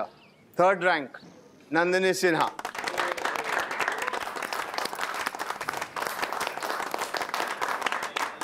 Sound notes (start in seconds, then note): 2.4 clapping